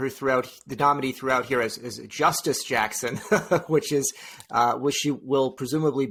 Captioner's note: laughs